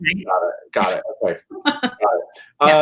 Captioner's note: giggle